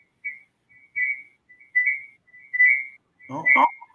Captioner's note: electronic tone echoing